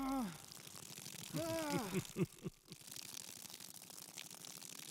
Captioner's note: foreign language; person groans